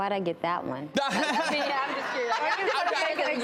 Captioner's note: laughs